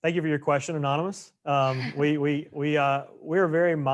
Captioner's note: laughs